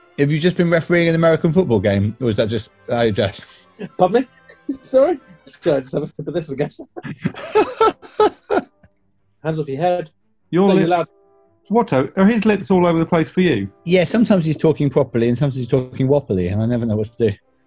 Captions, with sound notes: Have you just been refereeing an American football game, or is that just... ...how you're dressed? [LAUGHING] Pardon me? Sorry? [DISTORTION] [LAUGHING] Hands off your head. Your lips... Watto, are his lips all over the place for you? Yeah, sometimes he's talking properly, and sometimes he's talking wopperly. And I never know what to do.